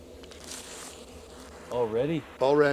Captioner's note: static crackling